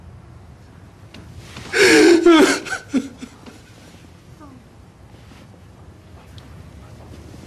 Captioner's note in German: crying